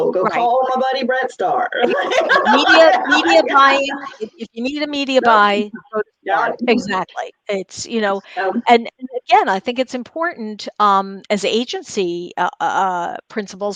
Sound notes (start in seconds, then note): 1.8 laughs